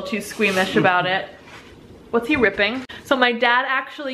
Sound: ripping paper

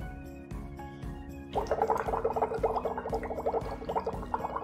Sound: water bubbling

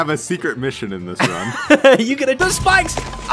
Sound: laughs

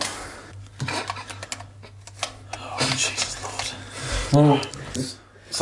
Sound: card clanking

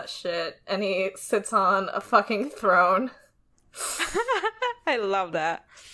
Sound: laughs

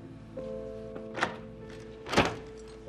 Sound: opening of door

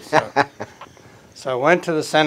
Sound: chuckles

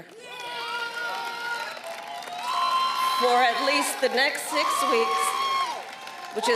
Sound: applause

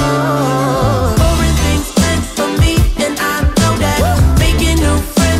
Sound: woo

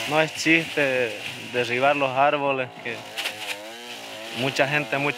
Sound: speaking in foreign language

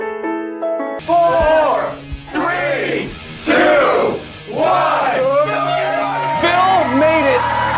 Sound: cheering

